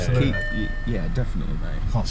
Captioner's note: beeping